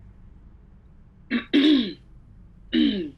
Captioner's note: dice clears throat